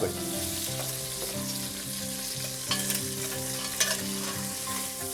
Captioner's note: bacon frying; gentle guitar and piano music